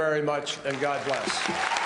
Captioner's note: applause